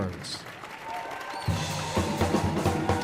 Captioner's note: audience applauding; audience cheering